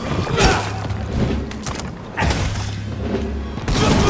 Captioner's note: characters grunting